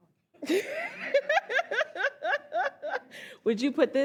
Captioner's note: all laugh